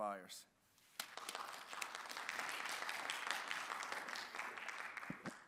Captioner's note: audience clapping